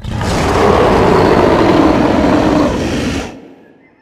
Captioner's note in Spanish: ¡Gruñido de dinosaurio!